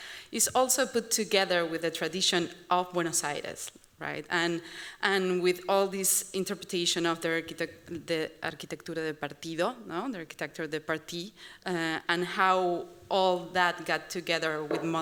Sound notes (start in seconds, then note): 8.3 non-english speech